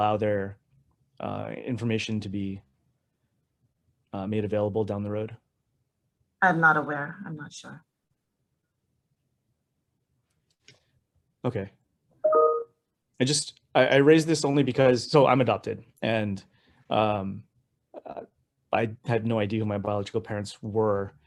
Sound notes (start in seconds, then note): 12.2 computer dinging